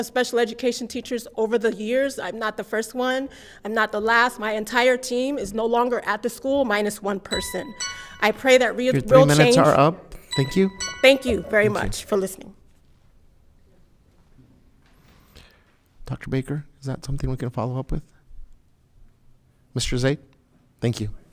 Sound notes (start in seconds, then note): 7.3 alarm ringing